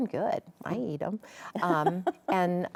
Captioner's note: laughs